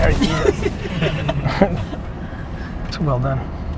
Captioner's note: laughs